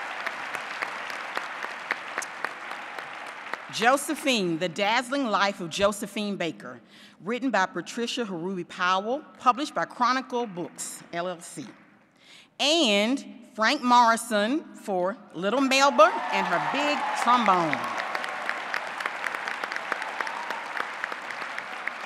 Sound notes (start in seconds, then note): 4.3 applause; 20.5 applause